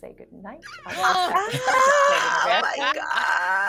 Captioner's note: people gasping